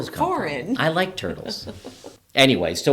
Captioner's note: laughing